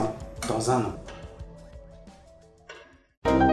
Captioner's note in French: tic tac tic tac